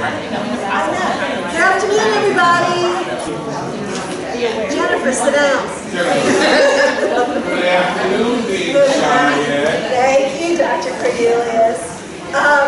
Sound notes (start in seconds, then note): 6.1 laughter